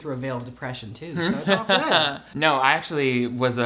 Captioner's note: laughs